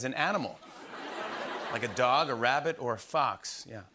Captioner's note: laughter